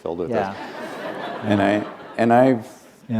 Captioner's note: laughter